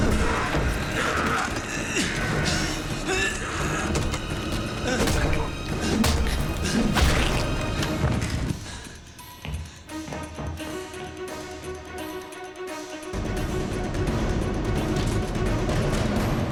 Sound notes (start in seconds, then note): 0.0 grunting in effort; 8.5 panting